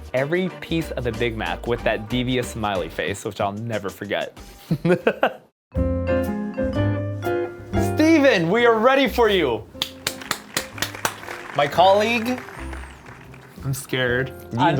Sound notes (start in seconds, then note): 4.7 chuckles; 9.7 clapping and applause